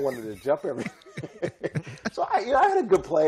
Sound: laughter

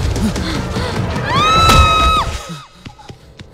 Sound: scream

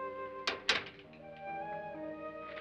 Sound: door closes; ominous music

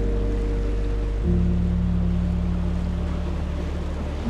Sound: water lapping

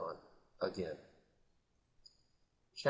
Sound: silence

